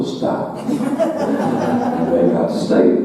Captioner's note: audience laughing